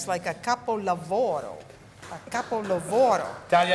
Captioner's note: women applauding